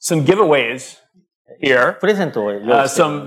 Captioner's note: speaking japanese